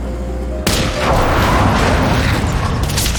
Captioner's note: gunshot